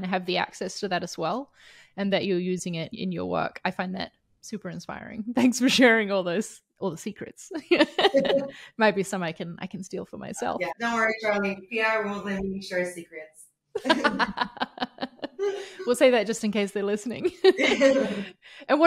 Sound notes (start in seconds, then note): 7.8 chuckles; 13.8 all chuckles